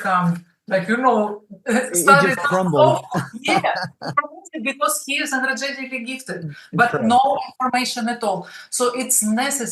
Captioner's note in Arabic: يضحك